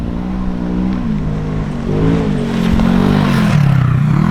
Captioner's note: ATV engine roaring